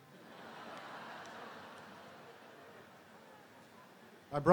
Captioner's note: audience laughing